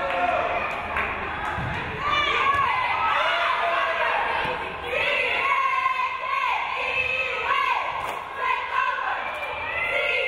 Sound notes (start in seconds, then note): 0.8 crowd cheering